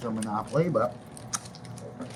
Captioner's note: lip smack